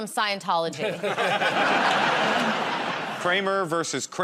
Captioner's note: laughter